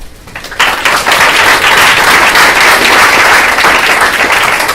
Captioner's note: applause